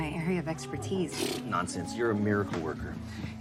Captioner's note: scoffing